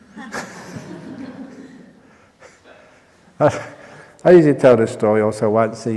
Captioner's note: laughter